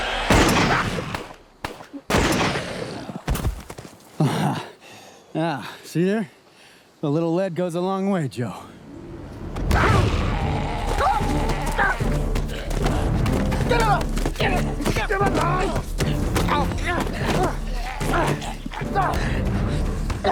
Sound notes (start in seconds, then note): 0.0 gun bangs; 3.2 body thuds; 10.4 Maiden 2 growls; 10.8 Hatfield yells; 15.2 Joe shouts; 16.5 Hatfield grunts